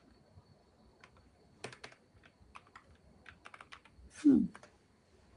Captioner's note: typing